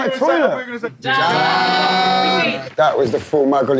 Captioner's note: cheersing in Korean